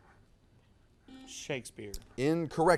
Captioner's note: buzzer sounds